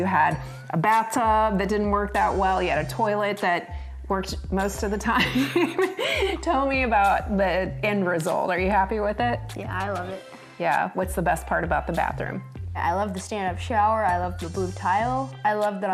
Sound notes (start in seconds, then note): 5.4 laughs